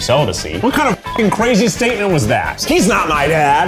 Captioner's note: beep